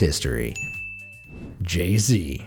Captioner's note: bell dings